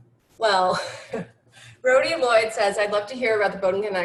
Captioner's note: laughs